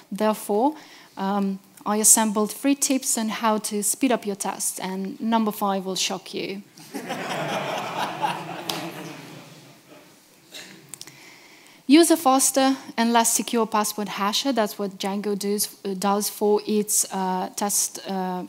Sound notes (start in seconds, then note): 6.8 audience laughing